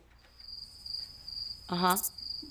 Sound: crickets chirping

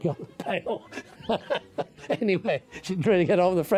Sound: laughs

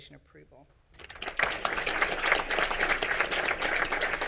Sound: all clapping

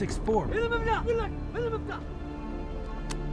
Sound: speaking foreign language

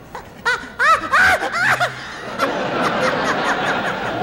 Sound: laughing

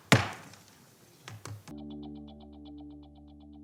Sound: gavel bangs

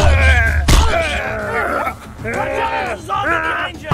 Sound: screams; groans

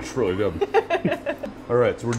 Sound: laughs

